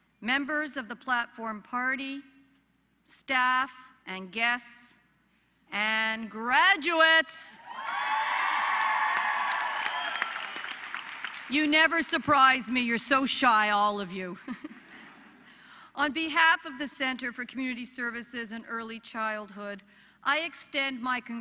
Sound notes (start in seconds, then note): 8.0 applause; 14.3 laughter